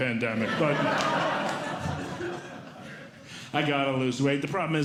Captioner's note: audience Laughing